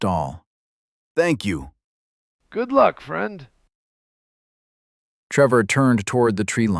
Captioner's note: quiet